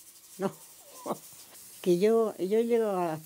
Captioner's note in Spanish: ríe